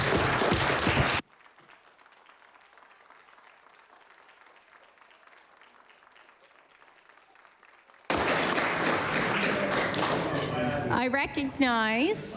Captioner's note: applause